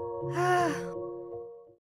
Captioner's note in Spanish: suspiro